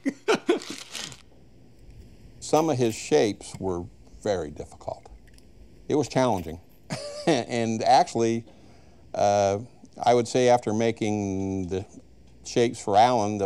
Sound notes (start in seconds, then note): 0.0 laughs; 6.9 chuckles